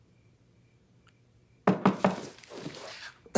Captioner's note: door knock